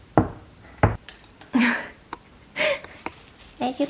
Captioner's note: laughing